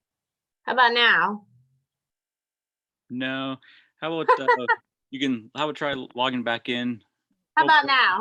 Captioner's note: laughs